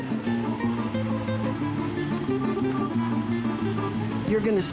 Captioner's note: sounds of Heavy Machinery